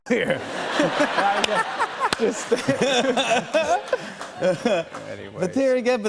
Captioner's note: laughter